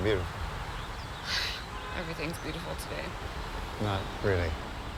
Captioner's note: sighs